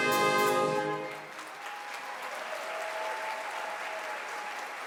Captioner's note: audience applauds